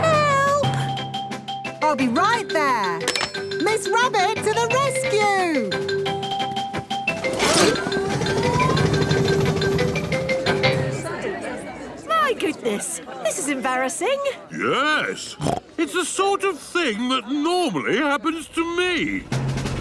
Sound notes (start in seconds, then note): 10.8 all murmuring; 15.3 snorts